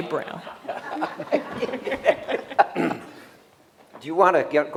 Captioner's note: laughter